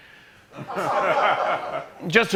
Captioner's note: laughter